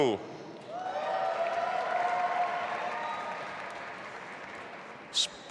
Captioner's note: audience applauding